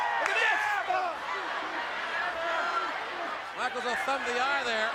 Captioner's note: crowd chattering